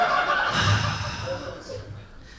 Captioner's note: sighs